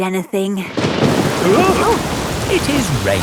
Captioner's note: thunderclap; parents gasp